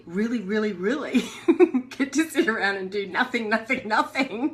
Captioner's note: giggling